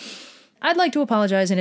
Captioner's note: inhales deeply